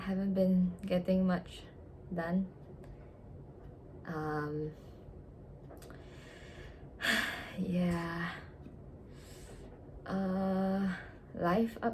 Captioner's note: sigh count: 2